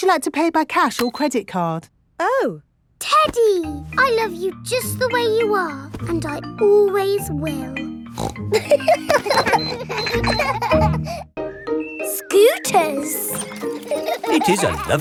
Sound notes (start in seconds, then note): 8.1 snorts; 8.5 kids laughing